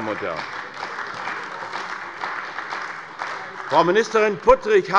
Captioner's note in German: Beifall bei der CDU